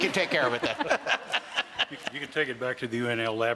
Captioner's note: laughter